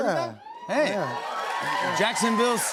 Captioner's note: cheering, applause